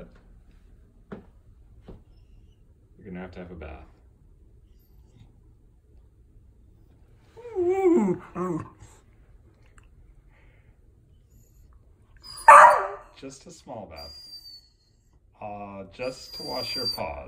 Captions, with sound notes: ... you're going to have to have a bath. (Oliver whines) (Oliver barks) Just a small bath... just to wash your paws